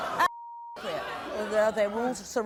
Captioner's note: beep